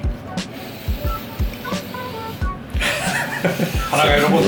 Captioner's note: heavy breathing